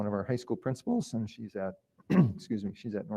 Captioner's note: clears throat